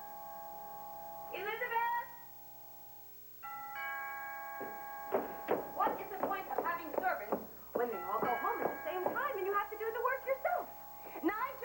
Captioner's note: ring